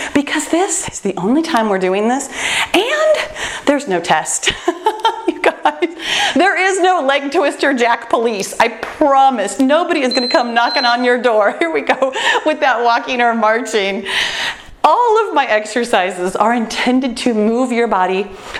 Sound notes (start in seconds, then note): 4.5 laughs; 10.0 timer beeps